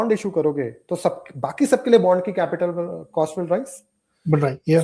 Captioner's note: nasal sound